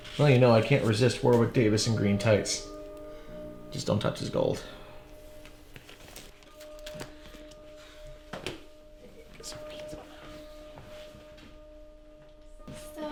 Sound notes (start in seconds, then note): 9.6 mutters